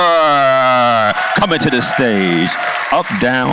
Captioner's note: cheers and applause